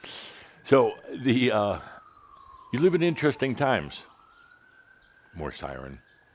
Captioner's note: sirens continue